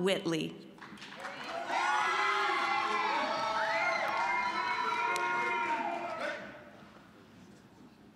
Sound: cheering, applause

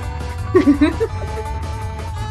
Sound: laughs

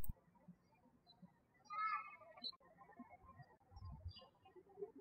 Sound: birds chirping

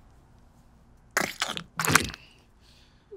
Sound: farting noises

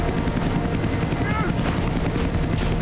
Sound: grunting

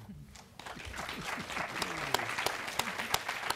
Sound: clapping

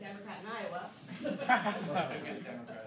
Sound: laughing

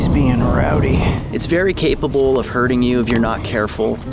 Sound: voiceover

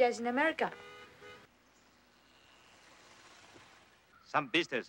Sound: car horn honking

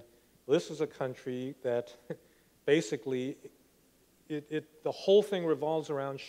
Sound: laughs

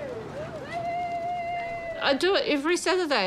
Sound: cheering

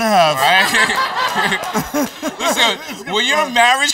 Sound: laughter

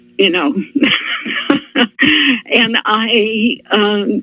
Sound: laughter

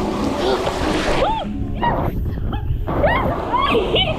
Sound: squealing

